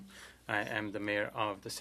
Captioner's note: speaking French